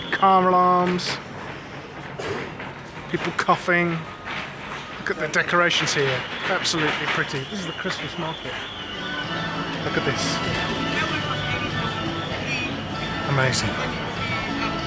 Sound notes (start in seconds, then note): 2.2 coughing off-screen